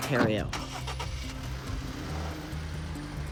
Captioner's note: engine revving up